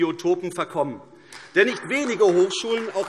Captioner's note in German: Beifall AfD